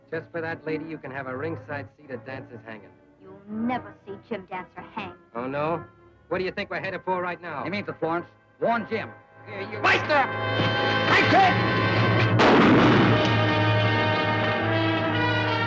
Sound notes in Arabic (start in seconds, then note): 9.2 موسيقى درامية; 12.2 صوت طلقات نارية